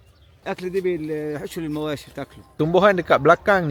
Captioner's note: speaking Arabic